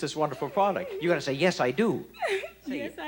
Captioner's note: laughs